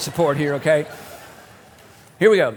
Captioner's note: laughter